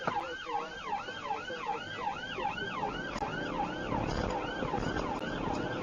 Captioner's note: engine accelerating